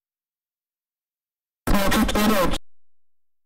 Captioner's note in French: avec colère